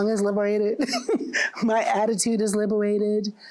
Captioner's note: chuckles